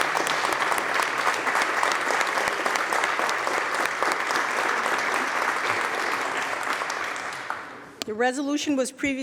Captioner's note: applause